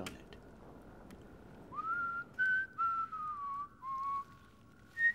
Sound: whistling

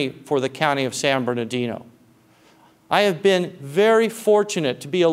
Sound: none

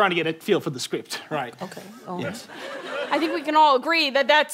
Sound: quietly

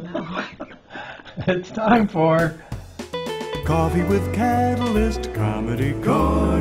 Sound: laughing

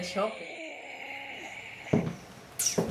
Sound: oxygen mask breathing sound

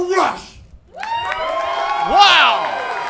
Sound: crowd cheering

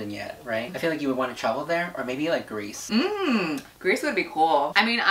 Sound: humming

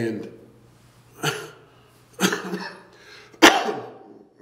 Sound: coughing

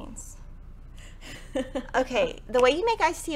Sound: laughs

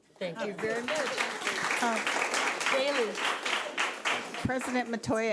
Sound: audience clapping

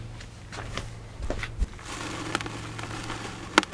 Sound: footsteps crunching; seeds rattling

